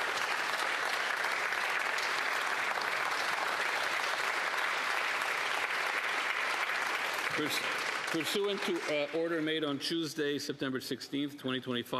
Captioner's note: applause